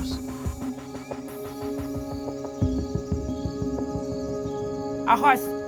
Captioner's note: bugs chirping; light music